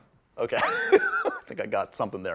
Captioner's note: laughter